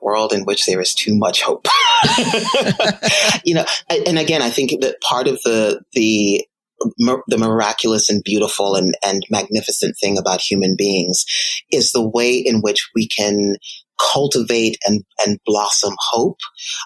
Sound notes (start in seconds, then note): 1.7 laughing